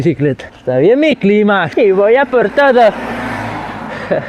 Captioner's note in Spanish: acento españolete